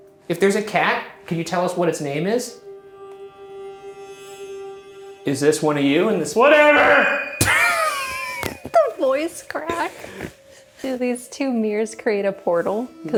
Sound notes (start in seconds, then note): 5.6 eerie music; 7.4 laughing